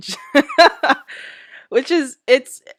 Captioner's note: laughs